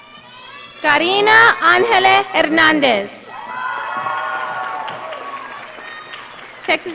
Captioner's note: audience applauding